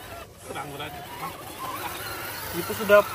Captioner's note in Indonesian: Tertawa